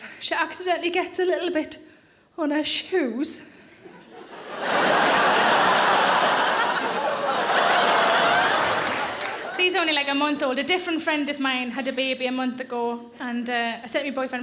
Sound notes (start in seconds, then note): 3.9 audience laughing